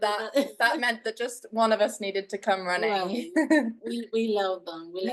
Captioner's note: chuckles